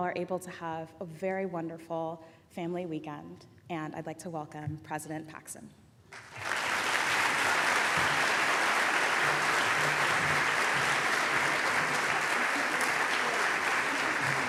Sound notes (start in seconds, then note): 6.1 applause